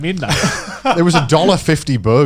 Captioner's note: chuckling